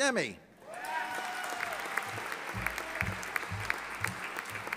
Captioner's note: audience applauding